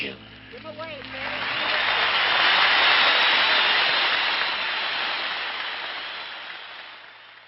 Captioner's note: crowd cheers